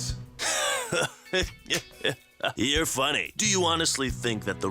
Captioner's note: laughter